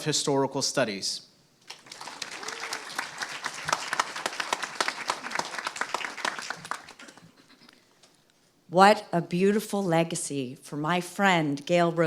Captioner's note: applause